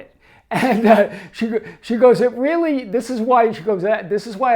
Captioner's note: laughs